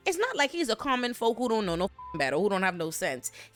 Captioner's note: beep